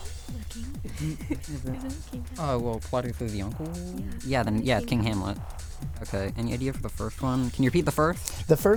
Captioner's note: whispering